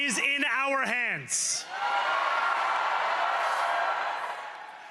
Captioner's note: cheering